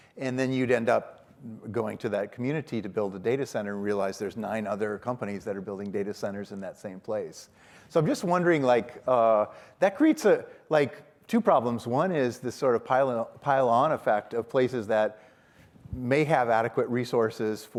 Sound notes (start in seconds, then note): none